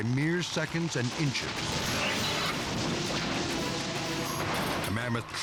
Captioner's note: crash thundering